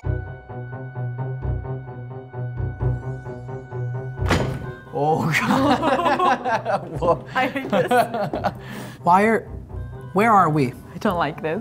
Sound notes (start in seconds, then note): 0.1 ominous music; 4.2 loud bump